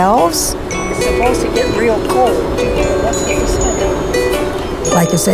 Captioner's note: murmuring